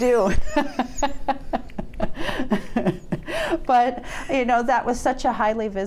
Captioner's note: laughing